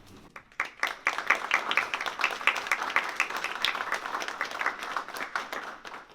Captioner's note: applause